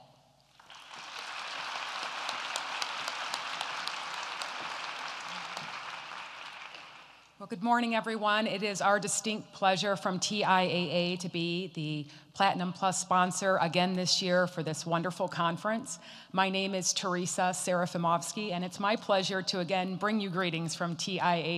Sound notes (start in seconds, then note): 4.4 applause